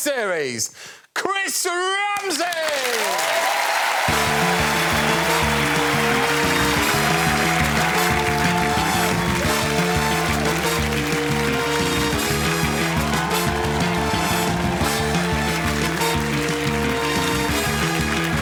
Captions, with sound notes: but also it's well done to the first winner of the series, Chris Ramsey. [cheers and applause] [upbeat music playing]